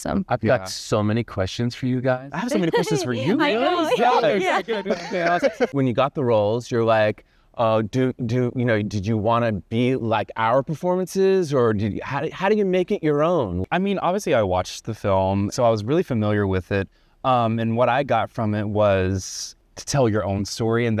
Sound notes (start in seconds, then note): 2.3 all chattering and laughing